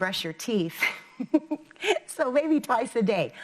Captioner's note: laughing